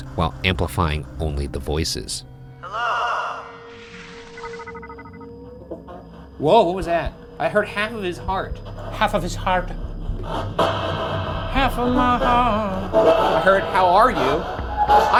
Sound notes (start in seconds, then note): 4.1 device pulsating; 10.2 device blares and thrums